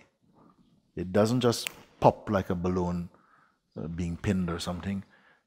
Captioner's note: snaps fingers